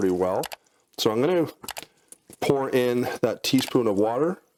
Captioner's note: mouse clicking; mouse clicking